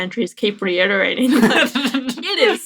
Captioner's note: laughter